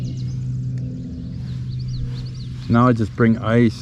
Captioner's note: birds chirping